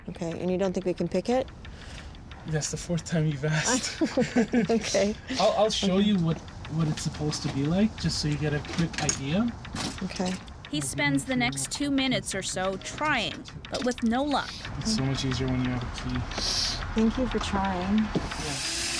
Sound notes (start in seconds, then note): 3.5 laughing